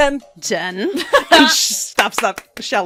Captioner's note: laughter, clapping